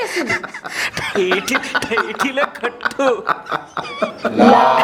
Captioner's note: laughing